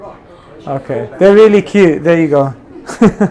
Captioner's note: laughs